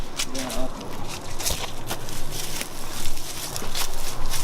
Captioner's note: leaves crunching